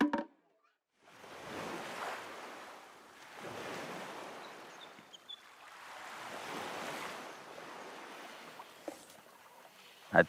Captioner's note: beach sounds